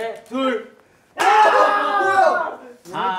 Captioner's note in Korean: 환호